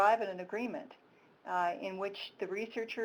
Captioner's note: none